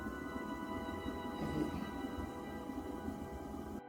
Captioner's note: whispers; soft music